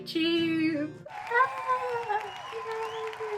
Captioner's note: audience cheering